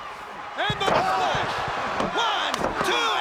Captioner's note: crowd clamoring